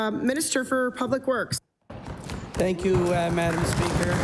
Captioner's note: some Applause